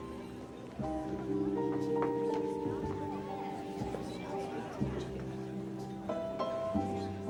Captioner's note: gentle music; patrons chatter